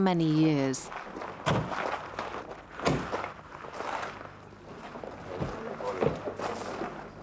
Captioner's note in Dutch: autodeuren dreunen